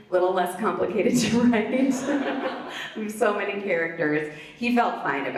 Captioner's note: laughs